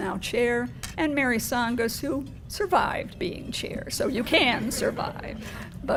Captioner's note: laugh